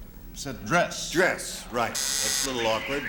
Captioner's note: buzzer